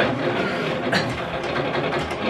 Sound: machine noises; cough

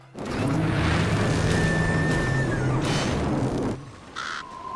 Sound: machines roaring

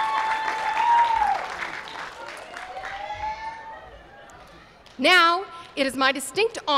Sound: applause

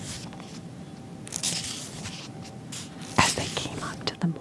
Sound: pages turning

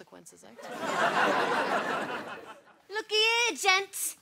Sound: audience laughter

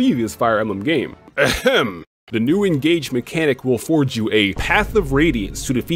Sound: ahem

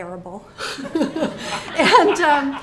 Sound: all laughing

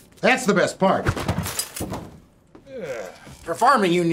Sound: book crashes

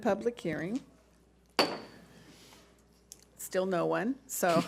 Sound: gavel bangs

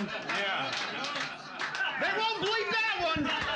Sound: laughing; softly clapping

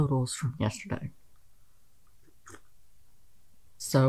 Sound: sipping coffee

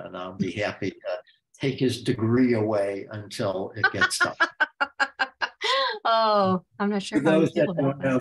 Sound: laughs

